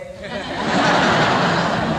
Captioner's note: laughter